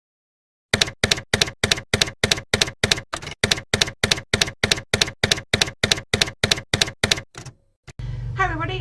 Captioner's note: typewriter keys clacking